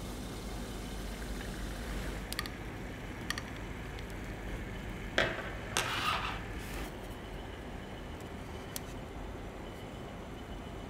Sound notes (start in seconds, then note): 1.8 sound of liquid nitrogen